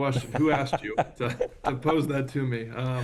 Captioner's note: laughs